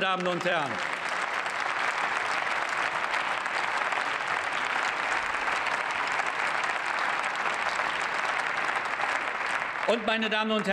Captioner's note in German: Beifall